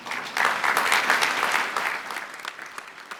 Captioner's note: applause